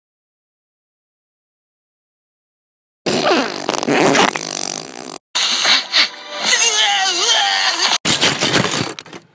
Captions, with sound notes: (farts) (sniffs) DEEEUUAEGHHH